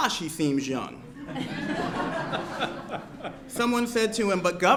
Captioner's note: laughter